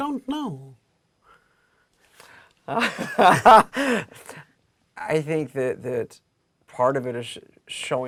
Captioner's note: laugh